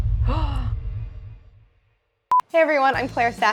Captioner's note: Claire gasping